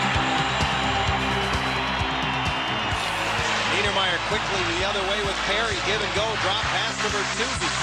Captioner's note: crowd cheers